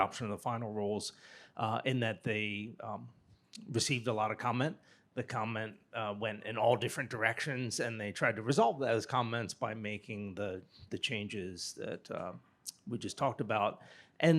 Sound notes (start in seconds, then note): none